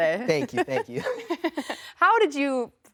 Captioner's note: laughs